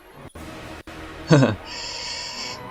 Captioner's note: chuckles